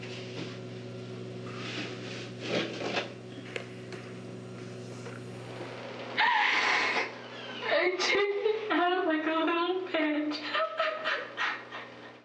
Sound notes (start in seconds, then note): 11.3 sobbing